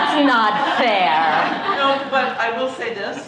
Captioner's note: laughter